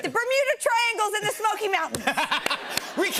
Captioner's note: laughter